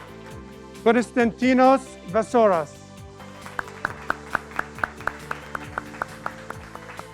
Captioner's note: graduates clapping